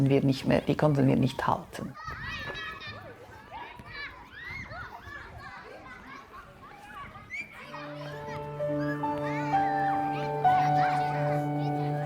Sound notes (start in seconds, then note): 6.1 children's voices playing